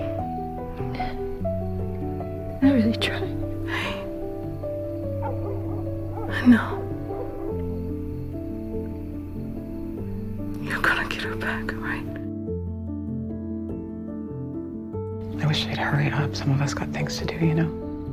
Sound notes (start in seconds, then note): 3.8 whispering; 6.5 whispering; 10.8 voiceover; 11.1 whispering